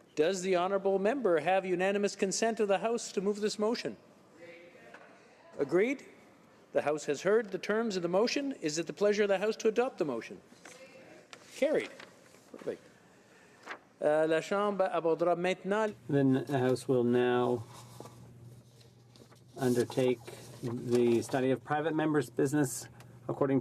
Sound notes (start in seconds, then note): 21.3 speaking French